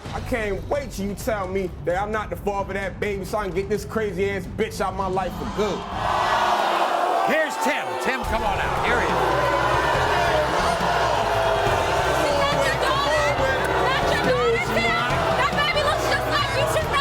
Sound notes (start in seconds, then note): 5.4 audience booing; 9.6 audience booing; 12.1 yelling